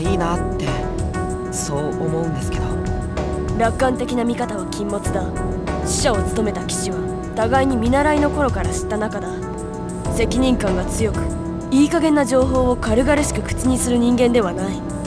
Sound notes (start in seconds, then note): none